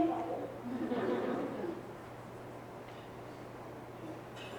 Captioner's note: people laughing